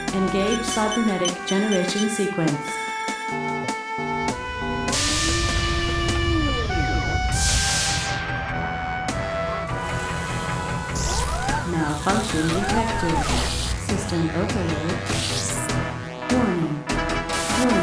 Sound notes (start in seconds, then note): 4.8 alarm beeping; 4.9 door whirs open; 9.0 machinery whirring; 15.6 alarm blaring